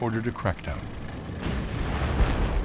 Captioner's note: cannon fires; echoing